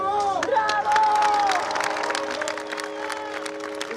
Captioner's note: people clapping